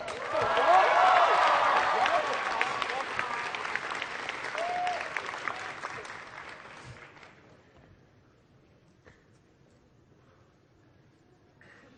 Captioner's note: applause